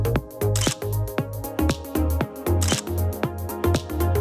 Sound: camera clicks

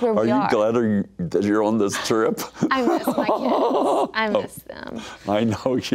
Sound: laughs

